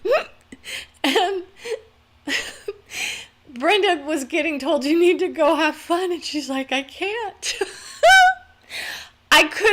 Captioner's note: laughter